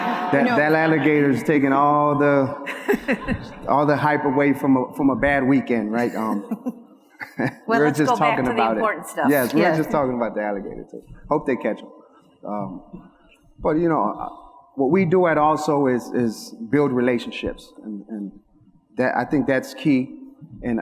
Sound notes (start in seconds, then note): 0.0 audience laughs; 2.6 laughs; 6.0 laughs